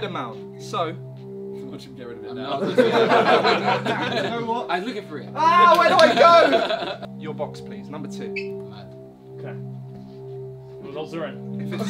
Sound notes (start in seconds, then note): 2.5 all laughing; 10.9 all laughing